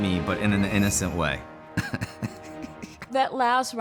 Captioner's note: laughs